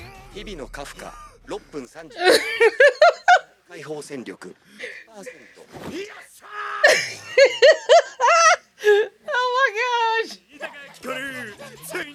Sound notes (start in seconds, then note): 2.1 laughing